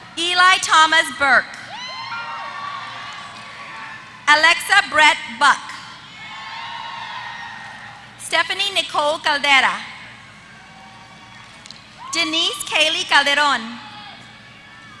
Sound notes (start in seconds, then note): 2.7 applause; 6.7 applause